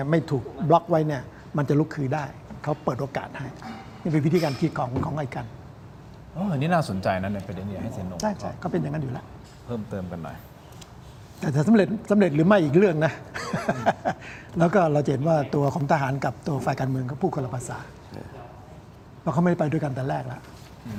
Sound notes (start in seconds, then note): 13.3 laughs